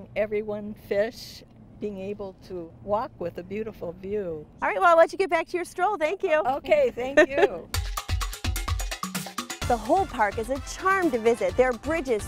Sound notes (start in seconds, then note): 7.1 laughs